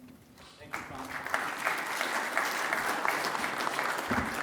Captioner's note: applause